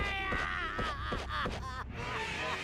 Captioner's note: crying